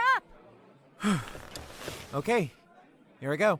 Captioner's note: nervous exhale